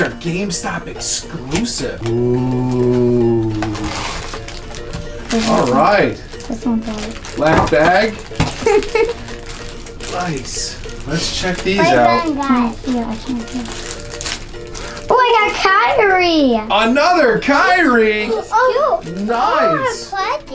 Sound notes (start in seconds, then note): 2.0 plastic crinkling; 8.5 laughs; 13.1 mumbling, bag ripping